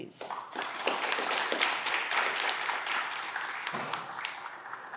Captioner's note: audience clapping